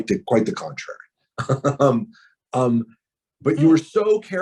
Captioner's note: laughs